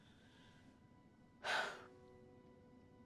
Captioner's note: sighs